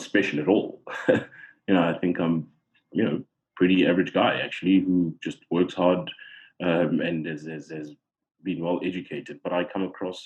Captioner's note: laugh